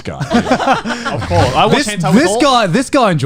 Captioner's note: laughing